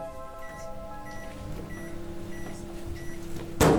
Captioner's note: assorted microwave noises